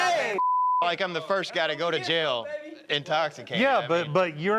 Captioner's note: beep